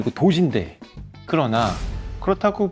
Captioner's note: heavy sound effect